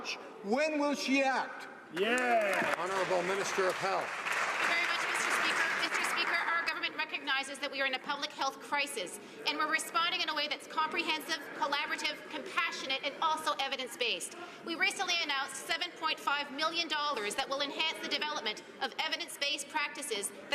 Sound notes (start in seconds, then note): 5.3 some Applause